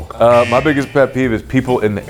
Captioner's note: buzzer buzzing